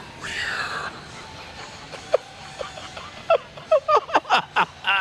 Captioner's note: Sid laughing